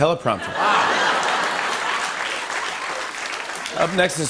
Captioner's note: applause